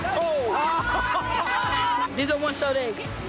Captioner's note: laughter